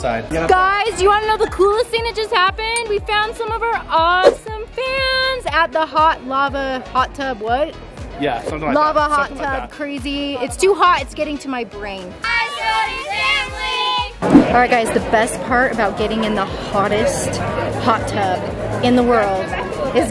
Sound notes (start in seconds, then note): 12.3 cheering